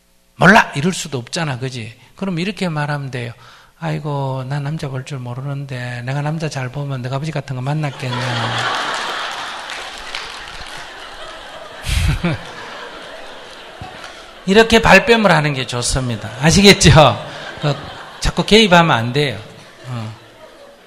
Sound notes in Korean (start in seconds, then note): 9.5 청중 웃음; 10.4 스님 웃음